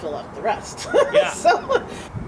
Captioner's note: laughter